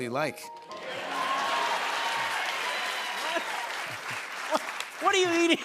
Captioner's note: cheering